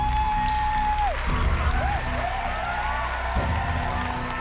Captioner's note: cheering, applause